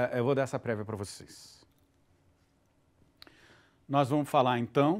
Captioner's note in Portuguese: silêncio